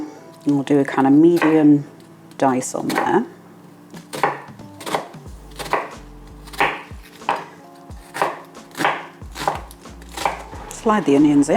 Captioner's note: chop chop chop